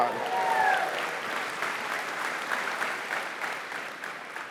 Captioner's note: cheering